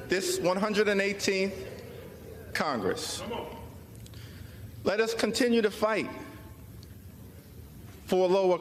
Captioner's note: crowd chanting